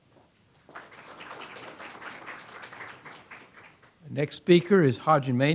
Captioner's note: audience applauds